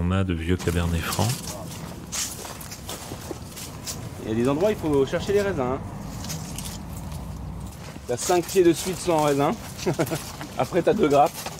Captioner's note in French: rires